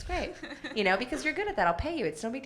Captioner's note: laughs